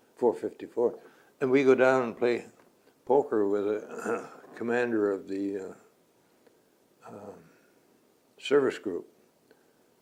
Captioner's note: clears throat